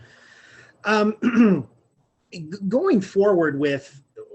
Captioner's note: clearing throat